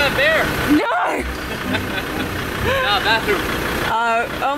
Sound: laughing

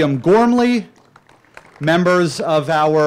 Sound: applause

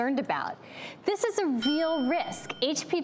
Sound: ringing bell

